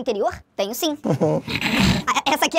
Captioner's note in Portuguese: risadas